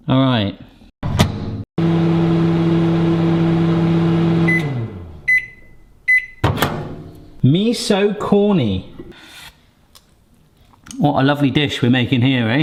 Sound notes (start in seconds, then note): 1.2 door clunks; 2.1 machine buzzes; 5.2 beeps